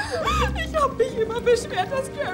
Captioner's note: crying